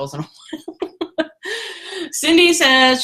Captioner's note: laughter